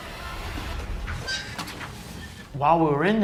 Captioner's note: metal scraping